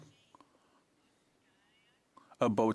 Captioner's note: speaking indigenous language